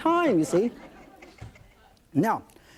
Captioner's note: light audience laughter